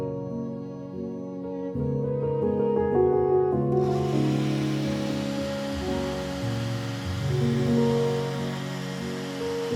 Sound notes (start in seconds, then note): 3.8 leaf blower whirs